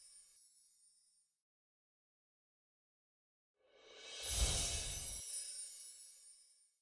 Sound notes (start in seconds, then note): 3.9 soft chiming